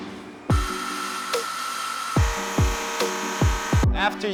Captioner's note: whirring